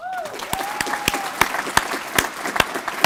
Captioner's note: applause